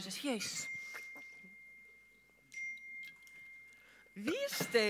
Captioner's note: phone pings